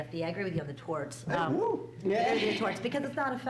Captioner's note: whooing